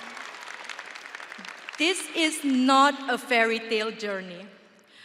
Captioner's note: audience applauding and cheering